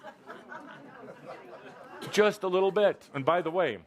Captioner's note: laughter